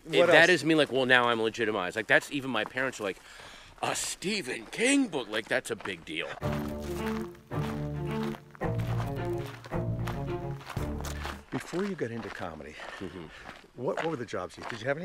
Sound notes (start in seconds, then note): 6.4 dramatic music; 6.5 footsteps crunching